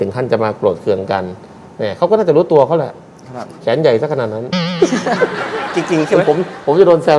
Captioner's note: laughter